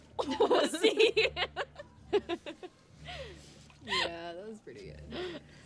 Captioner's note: Bethany and Kimberly laugh